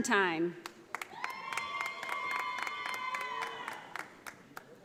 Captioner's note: audience applauding